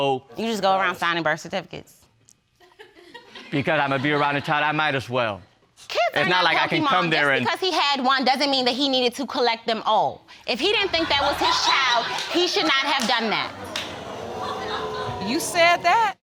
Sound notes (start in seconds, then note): 2.5 audience laughs; 10.6 audience laughing; 13.8 audience exclaiming